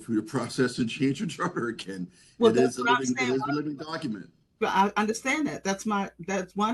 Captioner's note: laugh